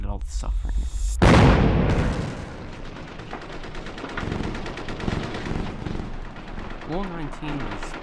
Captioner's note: sounds of warfare